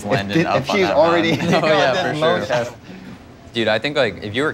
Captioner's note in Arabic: ضحك